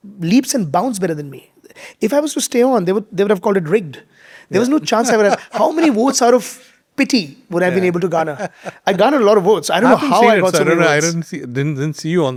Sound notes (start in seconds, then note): 7.7 chuckling